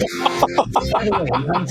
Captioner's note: laughing